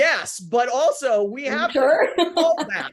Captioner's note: laughs